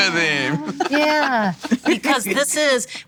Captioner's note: laughs